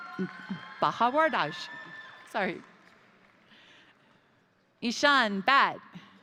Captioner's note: crowd cheering; crowd applauding